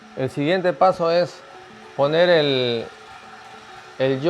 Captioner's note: speaking Spanish